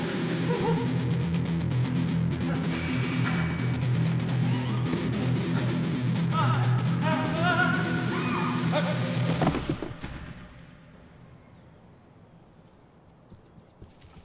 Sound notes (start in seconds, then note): 0.1 upbeat dramatic music; 6.5 groaning; 9.2 body thudding